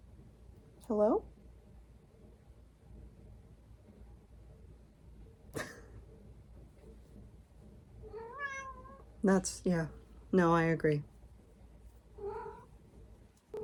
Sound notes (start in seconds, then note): 2.6 meow